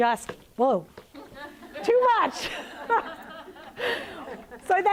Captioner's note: laughs